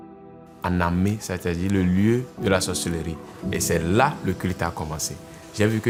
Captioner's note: speaking in French language